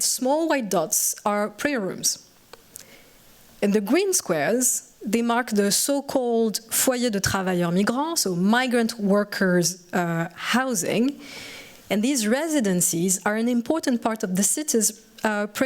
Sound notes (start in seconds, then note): 7.5 french